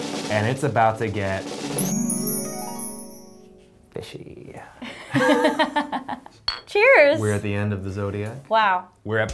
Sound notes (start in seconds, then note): 1.7 sparkle sound; 4.9 laughing